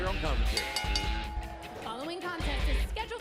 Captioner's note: bell ringing